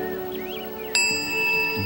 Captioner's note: bell rings